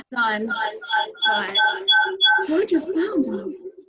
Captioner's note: audio echos